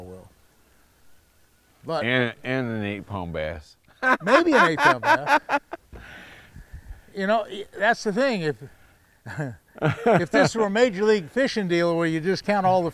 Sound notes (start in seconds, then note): 3.9 laughing; 9.2 chuckling